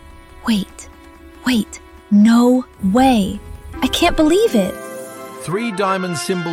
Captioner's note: whisper, excited